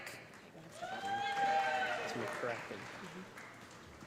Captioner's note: cheers and applause